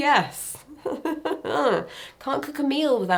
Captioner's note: person laughing